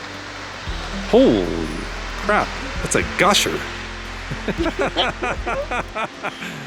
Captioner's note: laughter